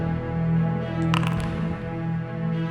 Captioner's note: dice rolling